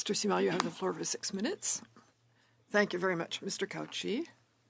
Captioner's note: speaking French